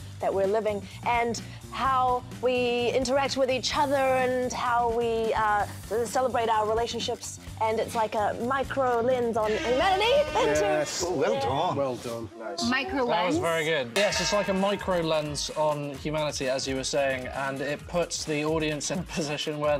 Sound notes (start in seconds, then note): 9.4 buzzer rings; 14.0 cowbell clangs